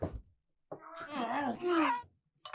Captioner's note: Bud cries out; Doc groaning; Bud cries out; Doc groaning